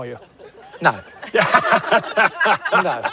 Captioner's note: laughter